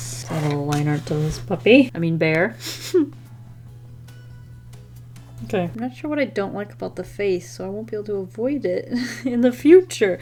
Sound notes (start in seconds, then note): 2.6 chuckle